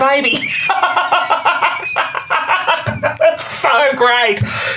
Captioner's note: belly laughs